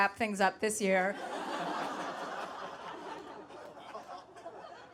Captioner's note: audience laughing